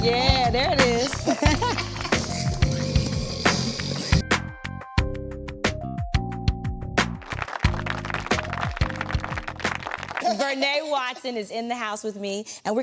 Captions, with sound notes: - Oh. - Yeah, there it is. (both laughing) (mixer whirring) (lighthearted music continues) (audience applauding) Vernee Watson (Vernee laughs) is in the house with me,